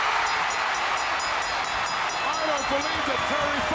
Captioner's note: audience cheering; bell ringing